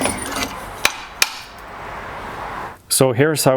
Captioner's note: metal clanging